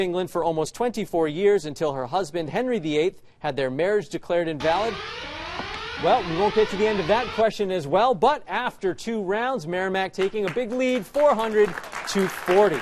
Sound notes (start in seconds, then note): 4.6 alarm clanging